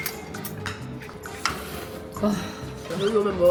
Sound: slurp

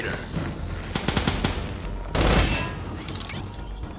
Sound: gunfire

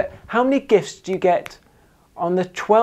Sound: fingers snapping

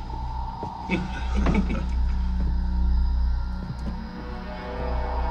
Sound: laughing

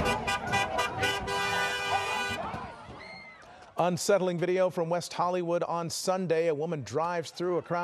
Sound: car honking

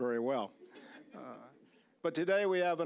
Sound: audience laughing

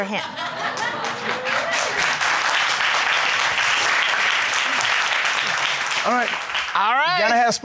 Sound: crowd cheering

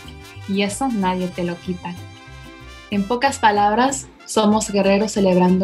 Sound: speaks in foreign language

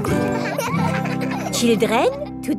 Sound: children laughing

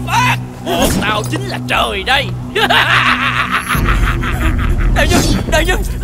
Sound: laughing

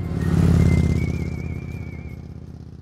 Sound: motorbike roaring

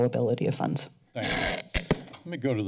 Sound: mic movement

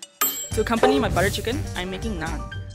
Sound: voiceover

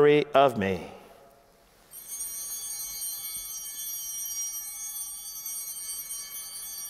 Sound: chimes ringing

